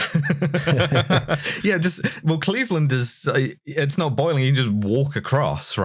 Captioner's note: laughter